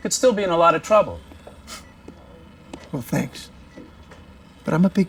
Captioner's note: chuckles